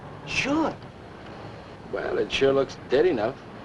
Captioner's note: none